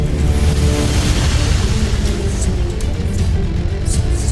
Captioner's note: sparkling whoosh